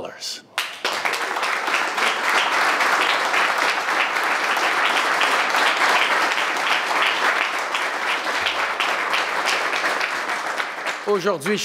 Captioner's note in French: Applaudissements